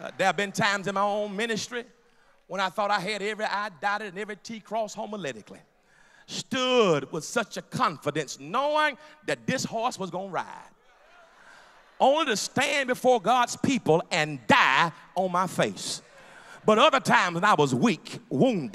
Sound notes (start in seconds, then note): 10.8 laughter